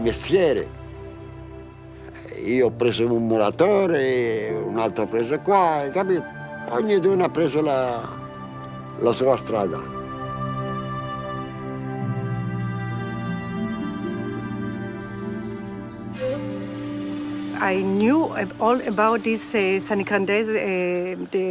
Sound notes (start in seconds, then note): 10.3 gentle music continues; 11.6 birds chirping